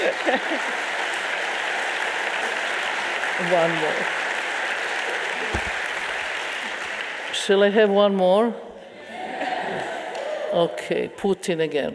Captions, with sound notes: One more. Shall I have one more? (audience members cheering) Okay, Putin again.